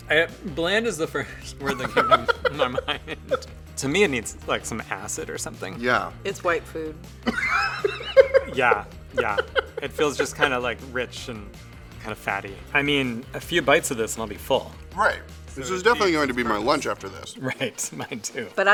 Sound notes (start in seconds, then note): 9.1 laughs